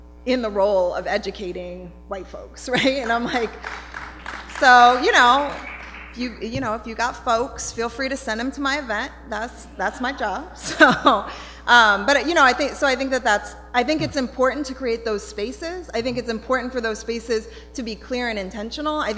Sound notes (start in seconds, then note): 3.0 applause